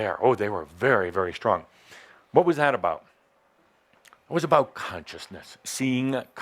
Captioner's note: none